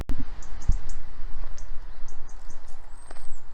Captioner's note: bird song